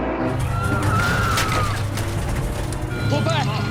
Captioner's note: screaming